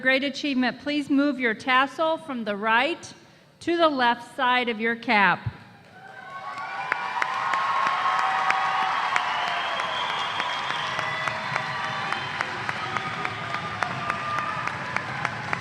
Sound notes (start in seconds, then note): 7.8 applause